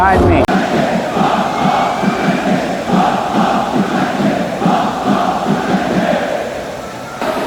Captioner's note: 인천 관중 소리